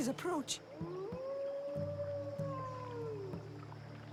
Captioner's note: howl